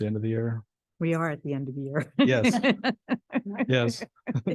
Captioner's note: laughs